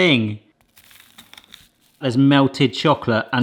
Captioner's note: pie crunches